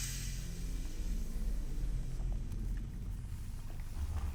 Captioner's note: dramatic music; snake hissing